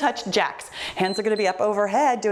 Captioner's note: timer beeps